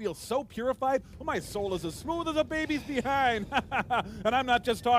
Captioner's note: chuckles